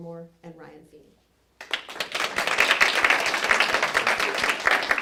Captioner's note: applause